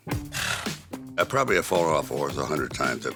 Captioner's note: horse sighing